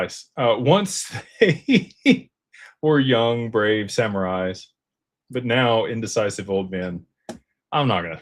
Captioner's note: laughter